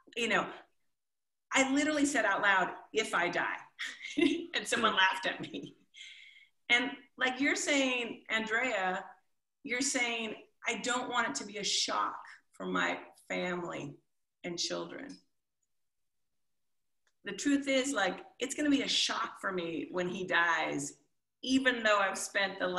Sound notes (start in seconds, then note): 3.9 chuckles